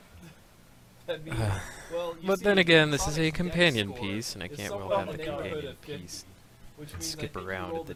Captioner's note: sigh